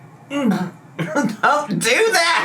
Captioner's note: gags